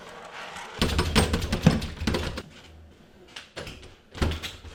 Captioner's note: door rattling